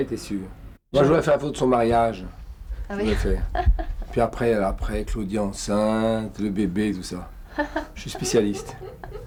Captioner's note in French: rires